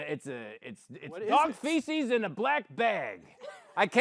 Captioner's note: gruffly